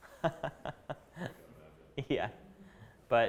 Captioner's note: chuckling